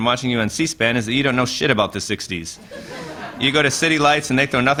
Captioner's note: laughter